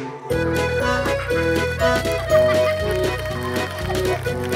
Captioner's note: All clapping